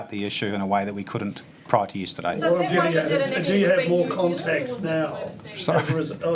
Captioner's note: voices off camera